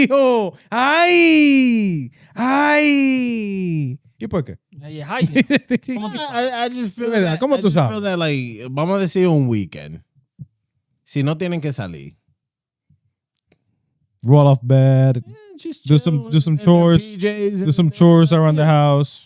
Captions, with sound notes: (Speaking In Foreign Language) Yeah, hi. (Laughing) I just feel that like, (Speaking In Foreign Language) Roll off bad. Just chill. Just some chores. And their PJs. Just some chores around the house.